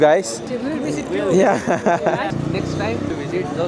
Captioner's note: laugh